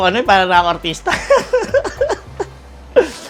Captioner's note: laughs